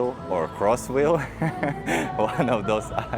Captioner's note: giggle